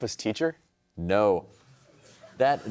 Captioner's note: laughter